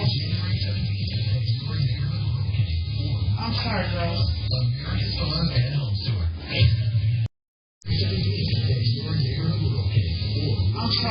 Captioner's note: TV plays in background